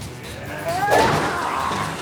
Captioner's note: grunting